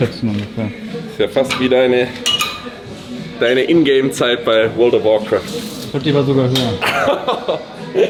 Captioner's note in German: gelächter